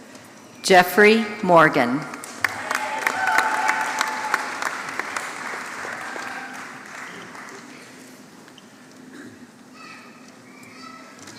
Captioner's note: applause